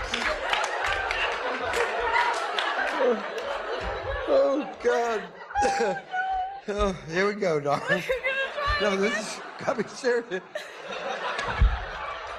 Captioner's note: laughs